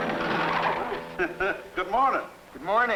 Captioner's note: chuckling